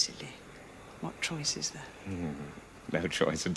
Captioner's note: they laugh